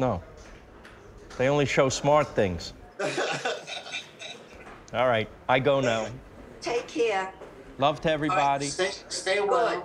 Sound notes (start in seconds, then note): 3.0 laughs